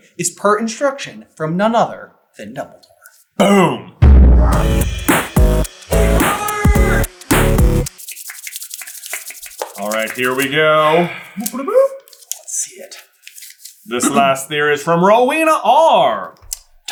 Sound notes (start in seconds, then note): 4.0 outro Theme Music; 7.8 thwlpthwlpthwlpthwlpthwlpthwlpthwlp